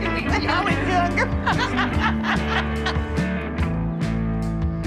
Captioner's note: people laughing; upbeat music continues